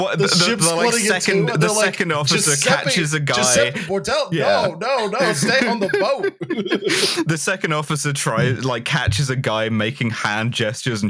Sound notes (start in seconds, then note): 4.3 chuckles; 4.7 laughs; 6.4 laughter